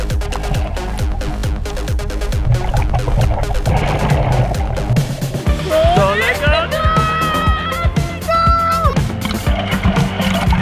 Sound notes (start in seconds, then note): 5.5 exclaiming